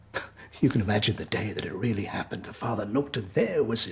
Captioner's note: laughs